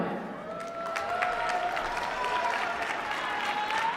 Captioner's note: applause